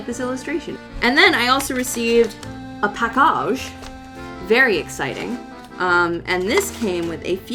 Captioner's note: says “package” with a swanky posh accent